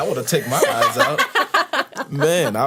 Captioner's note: laughter